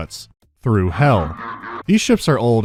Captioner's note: daemonic laughter